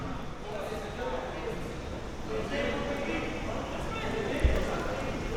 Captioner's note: people talking